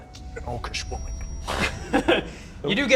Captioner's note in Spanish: Risas